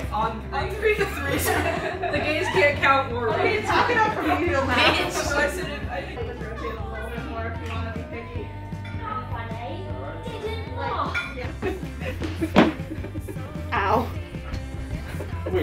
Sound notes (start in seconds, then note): 3.6 all laughing; 6.2 dishes clinking; 6.2 group chatting